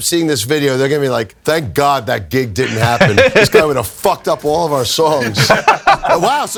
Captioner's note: laughs